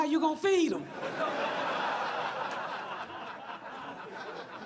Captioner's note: audience laughs